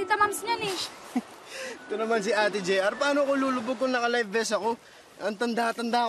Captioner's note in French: chuckles